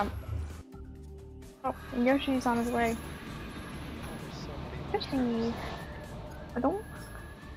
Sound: Yoshi noises

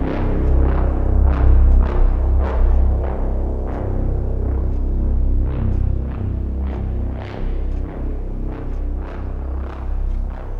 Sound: clock ticking

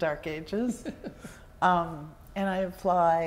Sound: chuckles

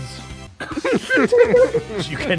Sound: laughter

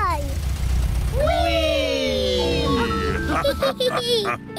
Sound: all laugh

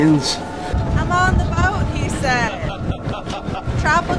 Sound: laughter

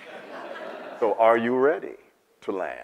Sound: audience laughs

